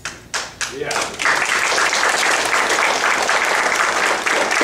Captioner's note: clapping